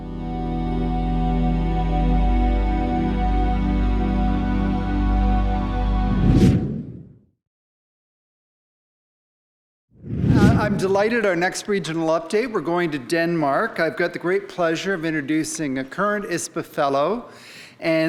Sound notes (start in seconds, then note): 0.1 soft string music; 6.6 pattern whooshing